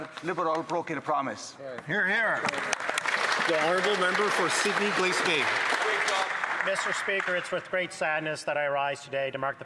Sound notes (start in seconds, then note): 7.3 some Applause